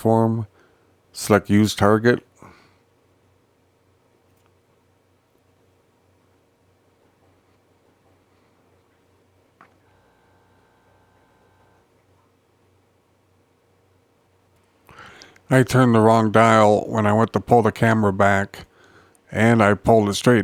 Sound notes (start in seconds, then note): 2.3 silence